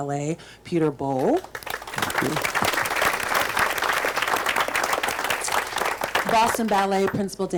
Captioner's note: group applauds